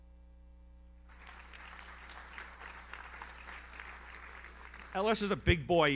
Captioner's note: audience applauds